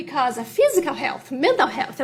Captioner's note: off microphone